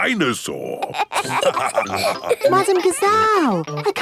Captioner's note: all laughing